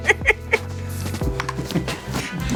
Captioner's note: laughing